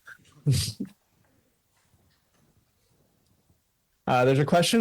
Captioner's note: chuckles